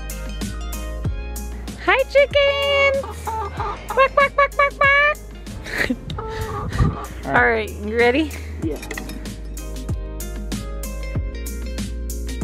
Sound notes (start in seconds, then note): 0.2 upbeat music; 3.0 chicken clucking; 5.6 laughs; 9.6 upbeat music